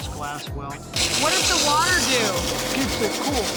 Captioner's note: grinding sound